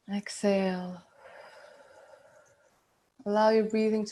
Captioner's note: breathing out